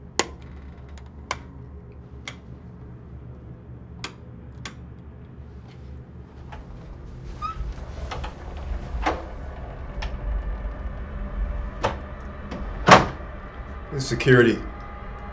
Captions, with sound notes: [clicks light switch] [suspenseful music] - This is security